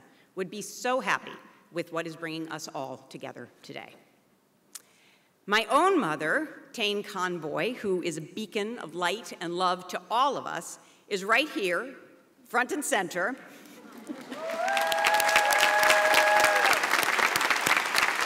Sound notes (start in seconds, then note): 13.9 audience applauds